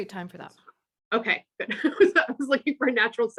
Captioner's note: laughs